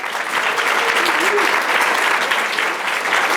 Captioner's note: applause